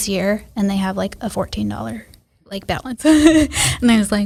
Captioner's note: laughs